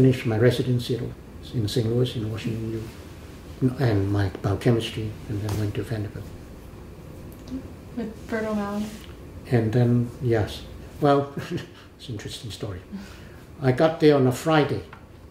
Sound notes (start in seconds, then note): 11.0 laughs